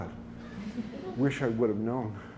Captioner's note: laughter